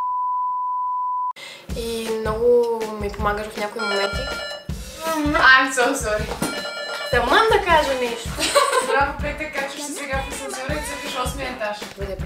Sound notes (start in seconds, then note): 3.8 bell rings